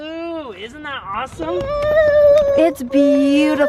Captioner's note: cheering excitedly